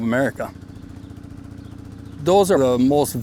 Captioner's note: ATV engine idling